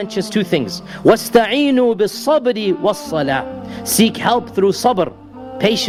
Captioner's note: recitation of Verse